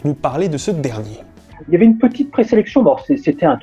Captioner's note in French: par téléphone